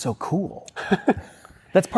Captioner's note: laughs